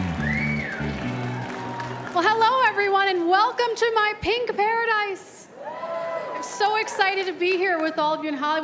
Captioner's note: cheers and applause